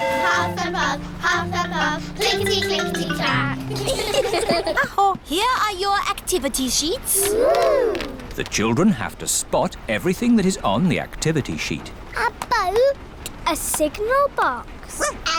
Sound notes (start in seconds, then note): 3.5 all giggle